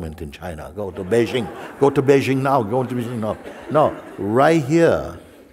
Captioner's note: Lachen